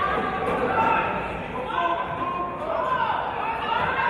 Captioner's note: none